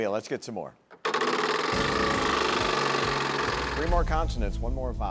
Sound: wheel rattles

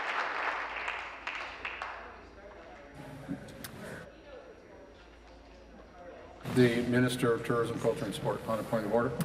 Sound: applause

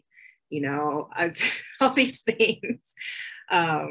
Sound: laughs

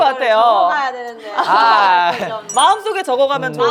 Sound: disappointed

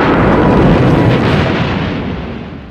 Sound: boom

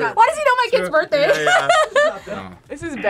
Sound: laughs

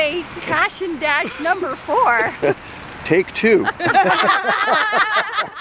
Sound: laughter

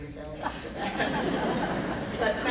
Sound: laughing

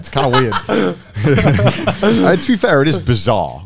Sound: laughing

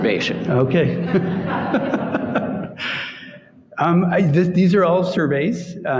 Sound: audience chuckling

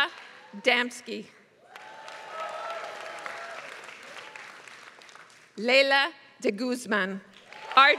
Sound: applause

